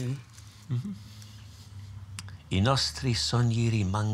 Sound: speaks Italian

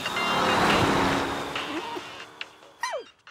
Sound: whimpering

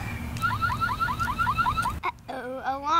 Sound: alarm sounds

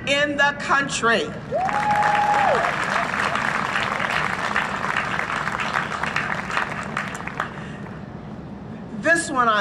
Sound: cheering and Applause

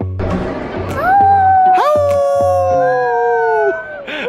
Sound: howling

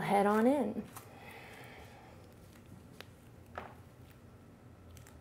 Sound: exhales

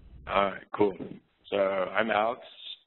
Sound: voiceover

